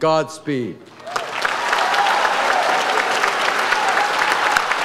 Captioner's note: audience applauds